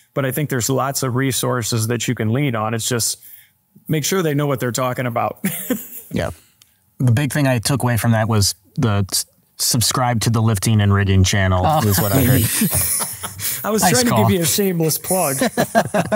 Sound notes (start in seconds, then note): 7.0 laughs; 11.6 group laughing